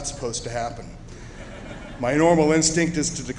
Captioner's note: chuckling